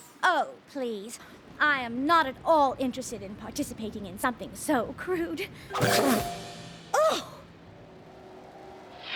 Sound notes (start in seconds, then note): 5.8 spits